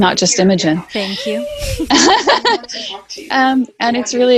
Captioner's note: laughs